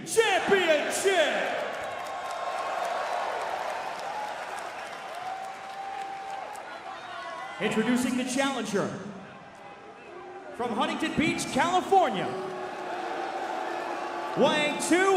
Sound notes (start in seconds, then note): 3.3 crowd cheering